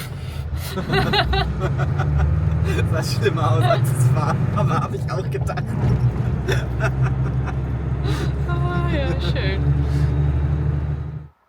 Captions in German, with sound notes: [beide lachen] Sah schlimmer aus als es was Aber das ich auch gedacht.